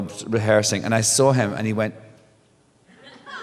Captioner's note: laughter